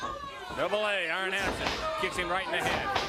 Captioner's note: crowd chatter